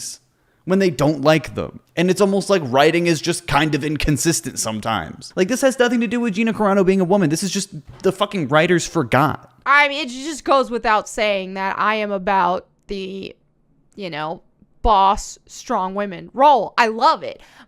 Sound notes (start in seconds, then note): none